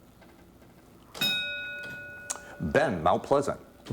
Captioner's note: ding